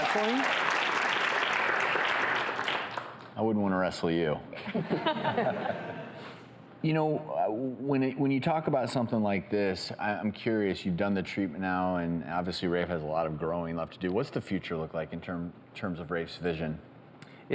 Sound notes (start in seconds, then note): 0.0 audience applauding; 4.8 audience laughing